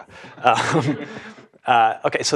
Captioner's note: laugh